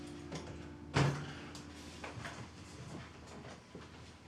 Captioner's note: door thuds